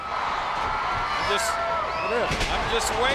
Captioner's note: audience cheering